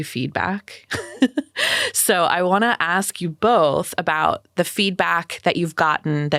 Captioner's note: chuckles